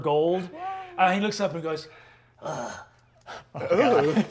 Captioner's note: grunts